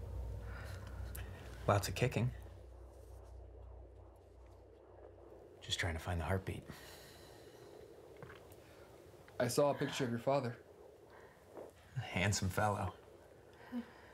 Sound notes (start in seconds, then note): 2.9 ultrasound whirring